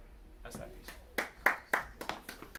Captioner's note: audience applauding